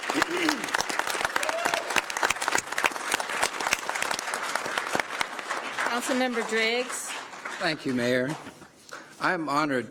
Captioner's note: applause